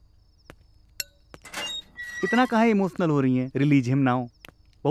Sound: door closing

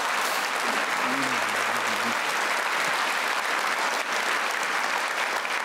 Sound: applause

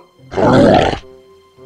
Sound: roaring

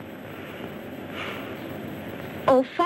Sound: sighs

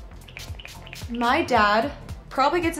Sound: spritzing

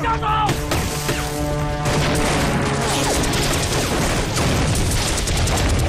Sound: shooting

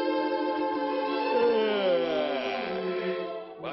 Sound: yawns

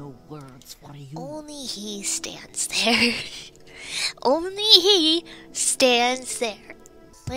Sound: laughs

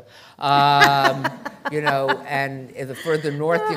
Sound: laughter

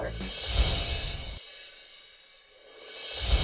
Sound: chimes

